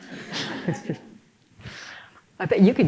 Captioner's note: laughter